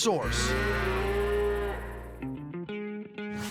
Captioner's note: cattle mooing